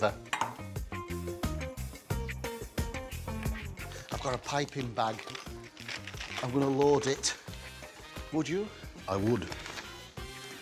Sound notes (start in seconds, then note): 0.0 upbeat music; 3.9 plastic rustling